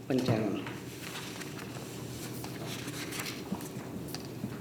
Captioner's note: papers rustling